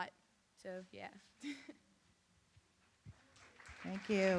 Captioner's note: laughs